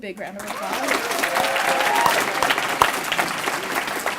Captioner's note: applause